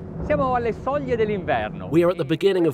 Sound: speaking in Italian

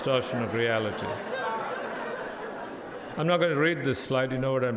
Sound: crowd laughing

